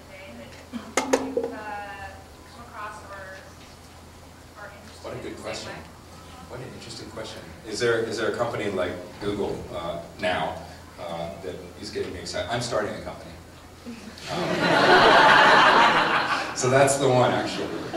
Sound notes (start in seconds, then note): 14.2 laughter